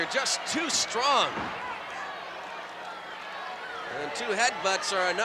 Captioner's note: applause